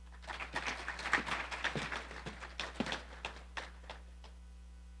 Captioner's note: audience applauding